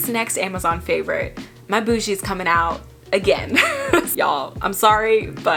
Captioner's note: laughing